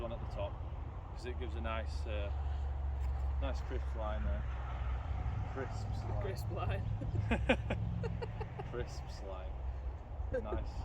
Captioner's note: laughing